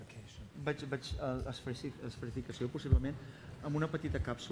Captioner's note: non-english speech